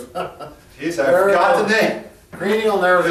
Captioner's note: laughs; chuckles